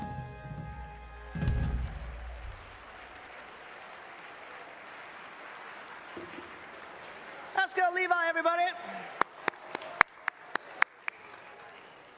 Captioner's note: applause